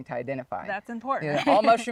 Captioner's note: laughs